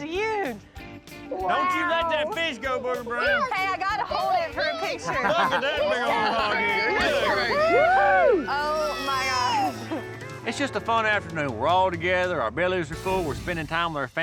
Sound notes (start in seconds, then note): 0.1 all clamoring; 5.3 all clamoring, cheering